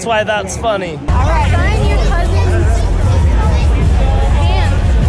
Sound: people chattering

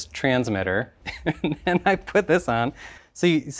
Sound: laughs

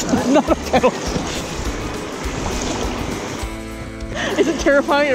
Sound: chuckling

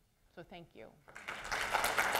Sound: applause

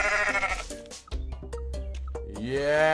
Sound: goat bleats

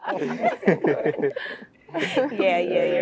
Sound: laugh

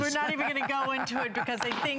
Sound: laughter

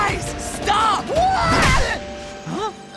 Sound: grunting; groaning

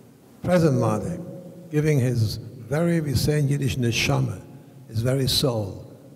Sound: speaking foreign language

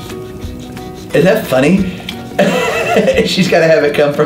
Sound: laughs

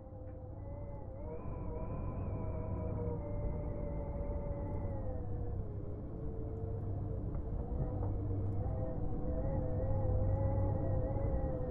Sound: hollow wind

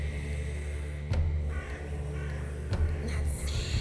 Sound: crow cackles

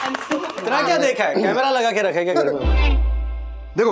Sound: claps

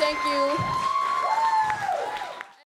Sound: cheers and applause

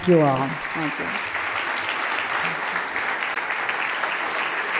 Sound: loud clapping

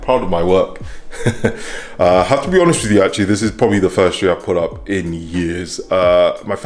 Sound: laughs

